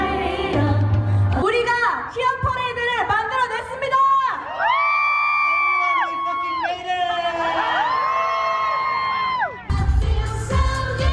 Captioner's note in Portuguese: gritos da platéia; Aplausos